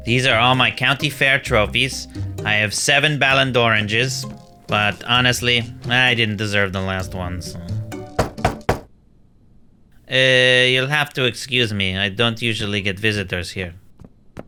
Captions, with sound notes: - These are all my county fair trophies. I have seven Ballon d'Oranges. But honestly, I didn't deserve the last one, so... [knocking] Ehh, you'll have to excuse me. I don't usually get visitors here.